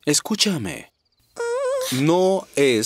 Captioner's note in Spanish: gemido